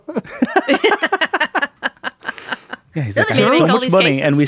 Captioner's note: all laughing